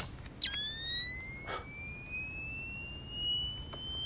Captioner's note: device squeals